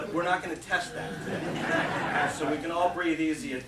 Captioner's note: laughter